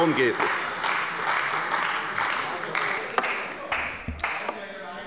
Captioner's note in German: Beifall bei der CDU und dem BÜNDNIS 90/DIE GRÜNEN